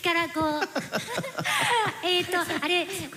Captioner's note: laughter